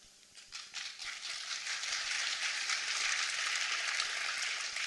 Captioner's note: applause